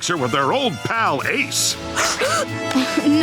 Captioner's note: gasping